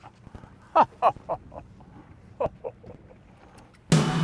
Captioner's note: chuckles